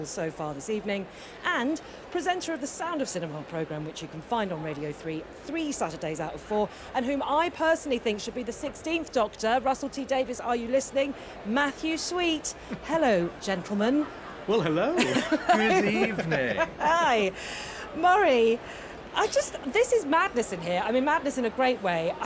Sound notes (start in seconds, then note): 14.9 everyone chuckles